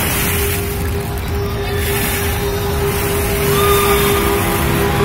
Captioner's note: sound of balls rubbing against